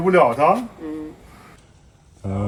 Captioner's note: nonverbal grunt as interjection